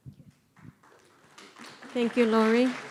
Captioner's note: audience applauds